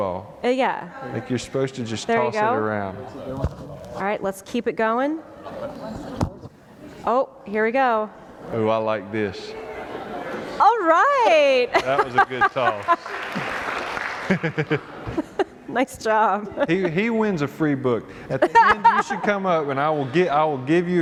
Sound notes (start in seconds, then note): 11.7 laughter